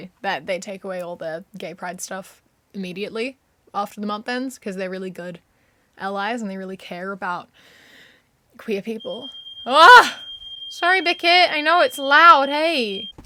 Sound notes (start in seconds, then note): 8.9 fire alarm goes off